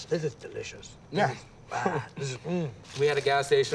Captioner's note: grunts